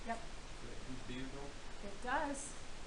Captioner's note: man speaking